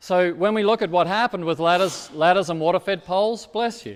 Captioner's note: person sneezing